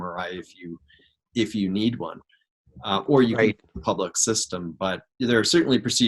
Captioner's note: microphone cuts out